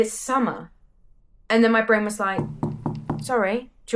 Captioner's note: knocking sounds